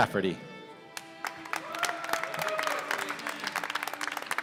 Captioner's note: applause